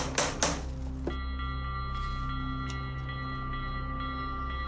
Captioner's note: Sonny knocks on door